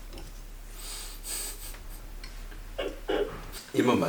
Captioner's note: laugh